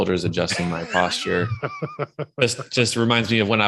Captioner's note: chuckling